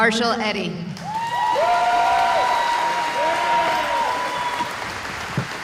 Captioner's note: cheering